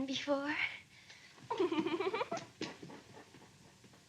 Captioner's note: giggles